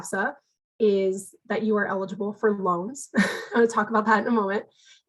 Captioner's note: giggles